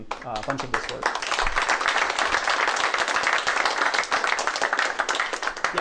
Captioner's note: applause